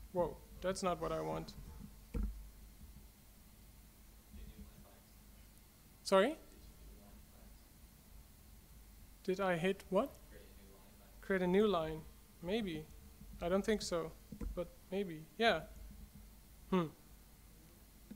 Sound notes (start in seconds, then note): 10.4 voiceover